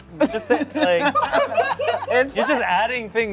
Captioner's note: cast laughs